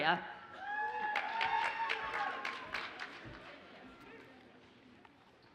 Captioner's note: audience cheers and applauds